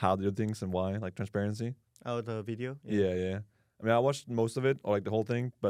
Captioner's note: none